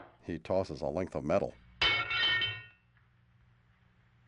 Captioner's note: crowbar clatters